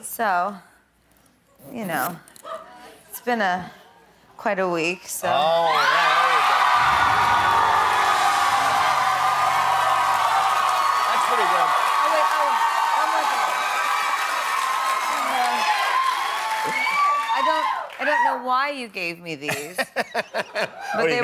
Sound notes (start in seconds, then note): 11.7 cheers and applause